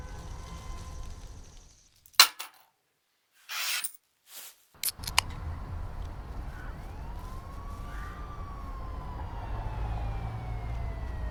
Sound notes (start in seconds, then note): 2.1 coins chinking; 5.1 beer can popping; 7.2 siren wailing